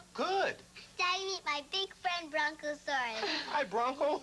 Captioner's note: mom laughs